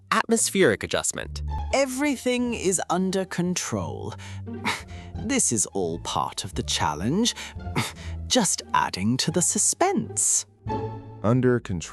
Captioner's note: cough; cough, cough